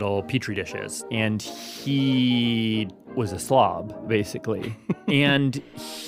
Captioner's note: laughs